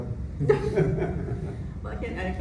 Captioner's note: laughter